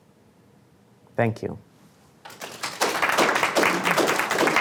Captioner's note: applause